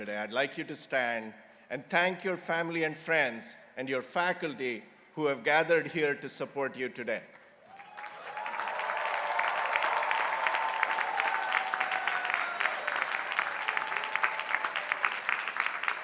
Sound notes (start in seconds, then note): 7.6 people applauding